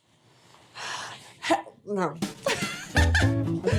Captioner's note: music intro; laughs